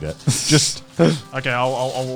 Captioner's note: chuckling